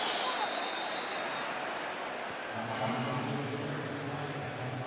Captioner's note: whistle; pa announcement